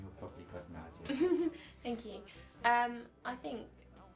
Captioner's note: laughing